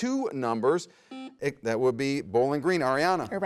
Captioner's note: buzzer buzzes